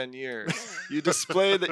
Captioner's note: laughs